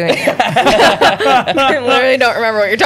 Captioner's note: laughter